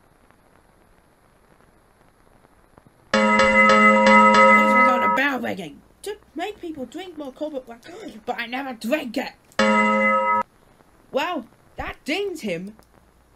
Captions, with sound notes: [bell ringing] What's with all the bell ringing? To make people drink more Colbert Blackcurrant. But I never drank it. [ding!] Well, that dings him.